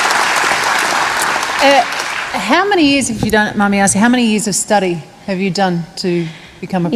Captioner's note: applause